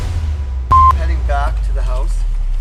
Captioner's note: camera beeping